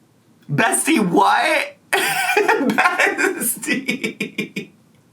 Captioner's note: laughter